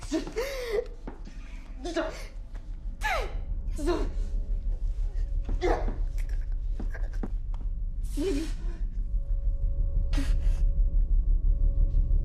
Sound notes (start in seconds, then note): 4.1 Betty gasping; 8.1 gentle music